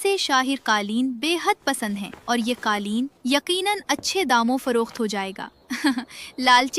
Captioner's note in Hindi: हंसी